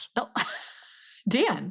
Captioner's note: laughs